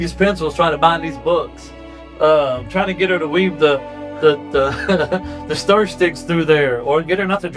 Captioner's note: laughs